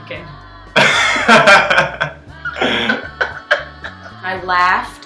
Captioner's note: laughing